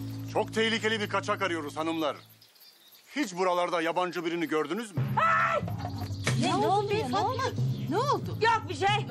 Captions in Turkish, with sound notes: Çok tehlikeli bir kaçak arıyoruz hanımlar. Hiç buralarda yabancı birini gördünüz mü? ( Bağırma sesi ) Ne oldu? Ne oldu? Yok bir şey.